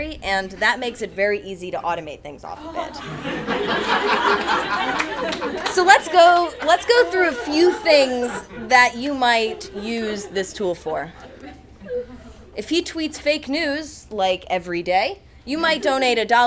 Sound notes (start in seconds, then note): 3.1 attendees laugh